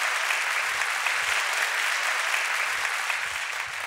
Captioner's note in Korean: 박수